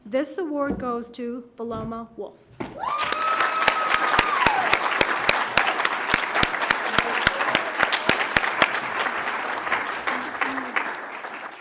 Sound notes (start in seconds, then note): 2.7 audience cheers; 2.8 audience applauds